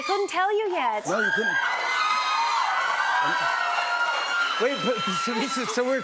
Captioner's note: cheers and applause